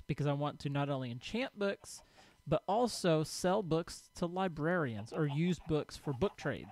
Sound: chickens clucking

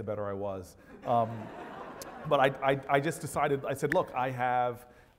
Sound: laugh

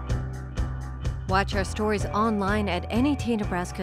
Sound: voiceover

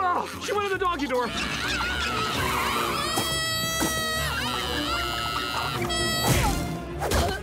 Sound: screaming

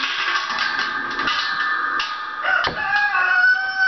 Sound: chain clanging; rooster crowing

